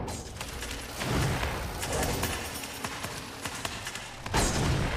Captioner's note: machine whirring